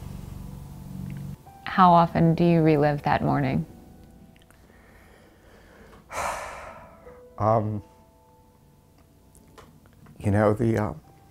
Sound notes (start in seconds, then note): 4.8 exhales